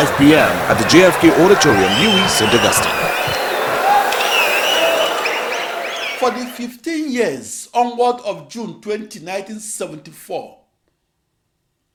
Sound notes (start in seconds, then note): 3.5 wild applause and cheering for 22 seconds